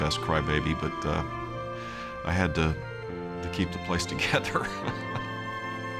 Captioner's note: chuckling